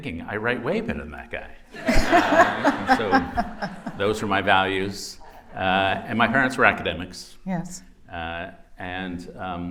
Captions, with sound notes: I write way better than that guy. [laughter] - So those were my values. And my parents were academics. - Yes.